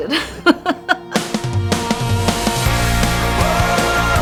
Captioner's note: laughs; upbeat music